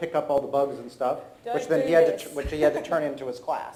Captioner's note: presenter laughs